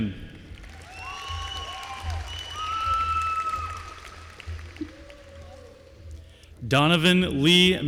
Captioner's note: applause